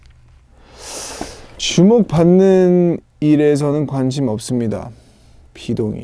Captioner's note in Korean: 스읍